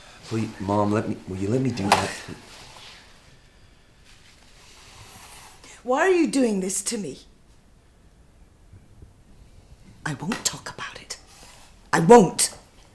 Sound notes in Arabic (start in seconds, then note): 2.0 يسخر